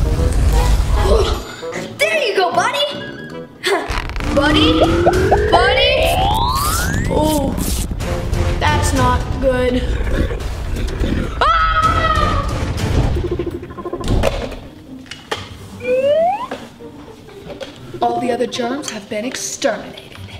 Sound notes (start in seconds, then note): 11.4 screaming; 15.9 detector sounding